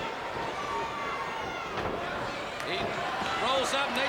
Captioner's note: crowd chatter